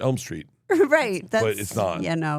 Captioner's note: laughing